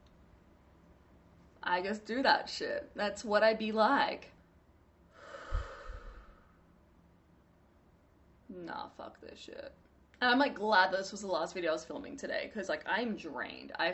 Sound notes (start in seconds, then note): 5.1 deep exhale